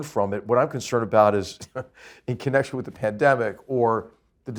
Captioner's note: laugh